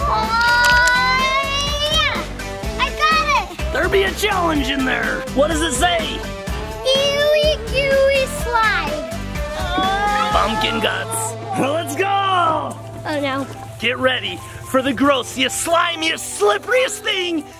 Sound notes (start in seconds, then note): 0.2 upbeat music; 1.4 grunting